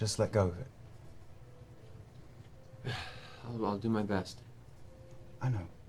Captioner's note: sighs